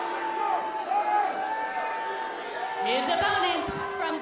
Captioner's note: crowd chatter